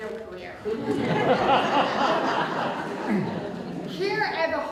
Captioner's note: audience Laughter